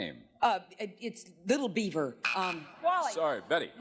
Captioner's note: buzzer sounds